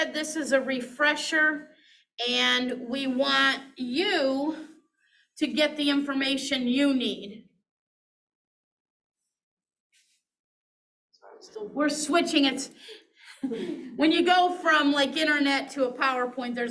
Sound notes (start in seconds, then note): 13.3 chuckles